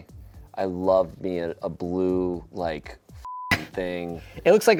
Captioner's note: beep